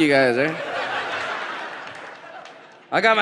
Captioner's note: audience laughs